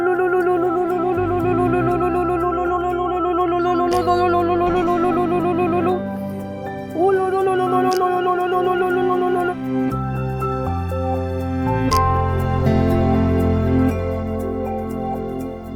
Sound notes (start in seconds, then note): 6.9 chanting ululudhvani